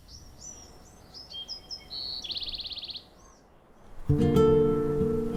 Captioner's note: birdsong